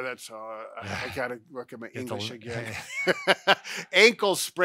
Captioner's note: laugh